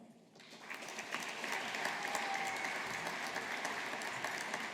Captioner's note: audience applauding